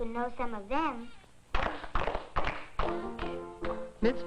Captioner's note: clapping